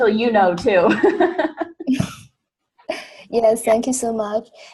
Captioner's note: laughing